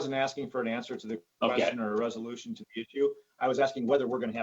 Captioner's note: murmurs